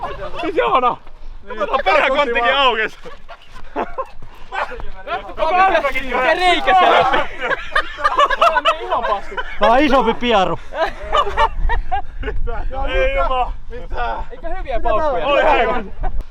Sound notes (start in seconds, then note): 8.7 laughing